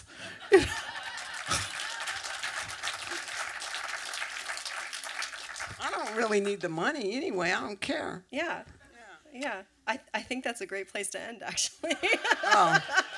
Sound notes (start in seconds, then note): 0.5 audience applause; 11.8 laughter